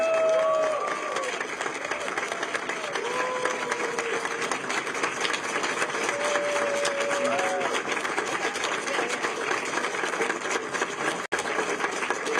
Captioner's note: applause